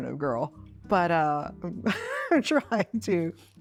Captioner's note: Chloe laughs